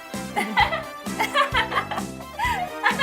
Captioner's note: Queen Gabee’s fake laugh